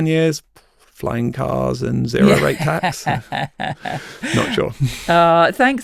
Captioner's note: laughs